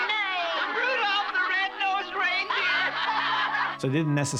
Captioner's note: laughing